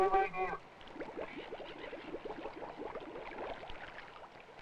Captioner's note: bubbles popping